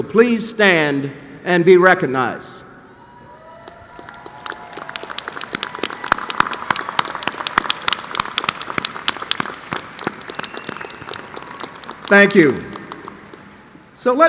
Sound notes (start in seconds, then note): 8.7 applause